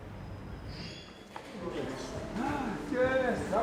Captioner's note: door squeaks